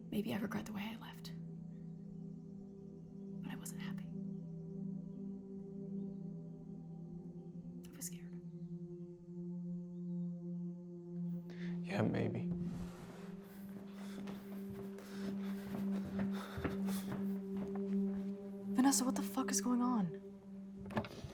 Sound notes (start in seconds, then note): 15.7 feet clopping